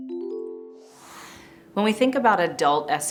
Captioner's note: chiming music; screen whooshing